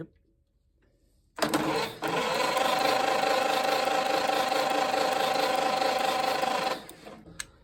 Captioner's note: engine cranking